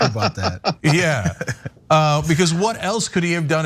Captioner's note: laugh